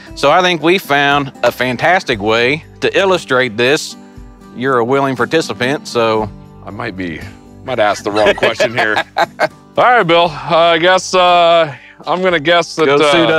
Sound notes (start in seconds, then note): 8.0 laughs